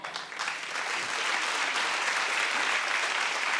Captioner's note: crowd claps